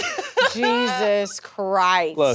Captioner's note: people laughing